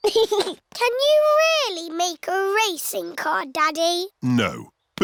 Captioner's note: chuckles